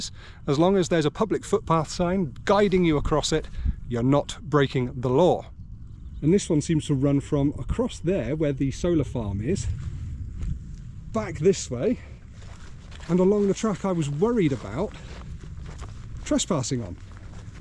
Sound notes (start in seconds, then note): none